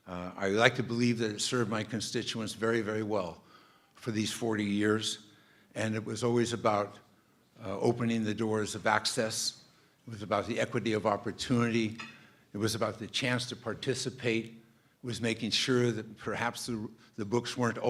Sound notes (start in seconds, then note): none